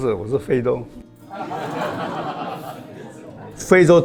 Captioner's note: laughs